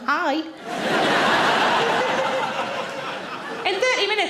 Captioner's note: audience laughing